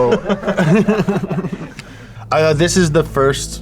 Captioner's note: chuckling